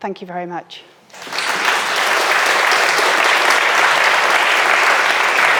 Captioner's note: audience applauding